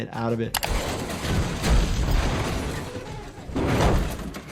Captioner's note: car slams; metal creaks